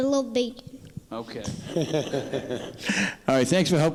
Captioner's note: father laughing